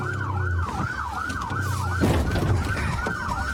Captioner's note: bangs